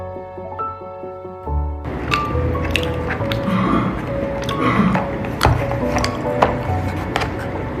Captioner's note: someone coughs